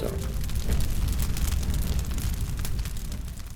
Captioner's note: crackling fire